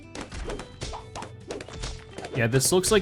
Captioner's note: balloons popping